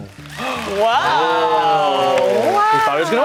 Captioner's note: gasps